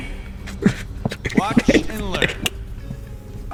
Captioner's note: laughs to myself